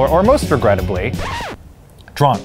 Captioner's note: record scratching